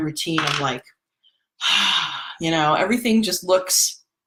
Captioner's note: sighs